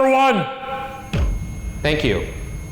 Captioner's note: REM-POD beeps